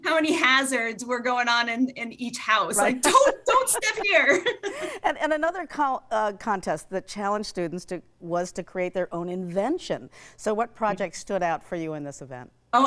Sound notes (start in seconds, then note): 2.8 laughing